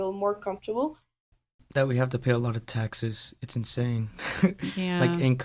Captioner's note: laughs